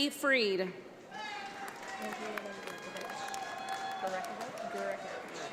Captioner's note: audience applauds